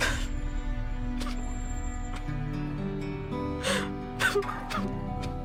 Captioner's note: crying